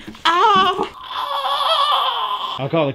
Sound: strange screaming

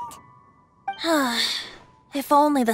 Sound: sigh

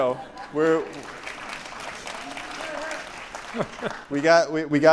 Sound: audience applauds; audience laughs

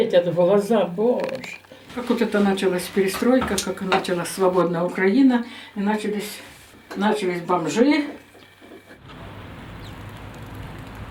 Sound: speaking Russian

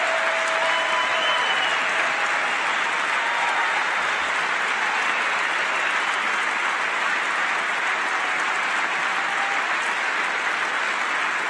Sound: cheering and applause

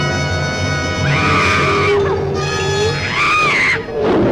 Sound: small Dove screaming

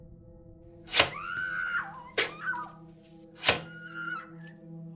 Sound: screams; soft music

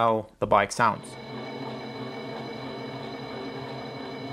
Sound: whirring

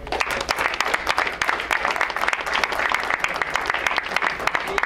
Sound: crowd applauds

